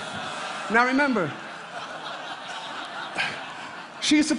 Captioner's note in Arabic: ضحك